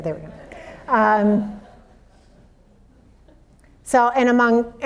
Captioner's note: audience laughs